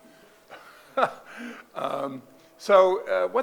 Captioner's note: laughing